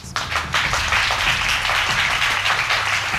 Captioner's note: audience applauding